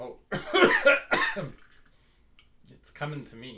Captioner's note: coughs